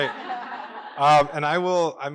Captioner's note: laughter